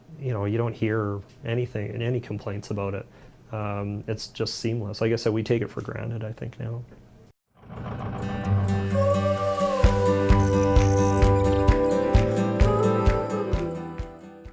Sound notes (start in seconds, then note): 7.6 truck engine revving; 7.6 vibrant music